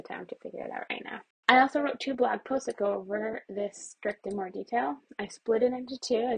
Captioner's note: mouse clicks